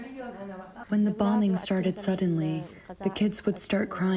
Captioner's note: through translator